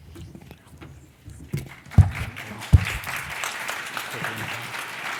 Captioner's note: applause